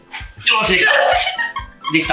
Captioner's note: laughs